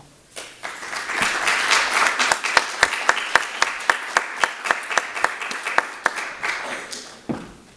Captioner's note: applause